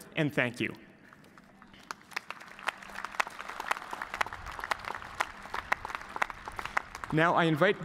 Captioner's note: cheers and applause